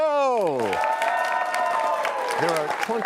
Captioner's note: cheers and applause